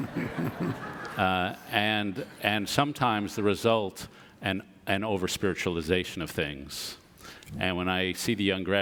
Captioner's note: audience laughs